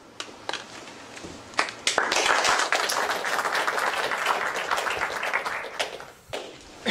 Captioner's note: applause